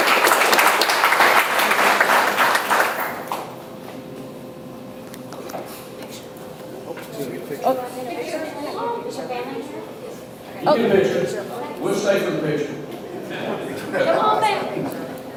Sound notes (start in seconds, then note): 7.3 group chatters; 12.9 audience laughs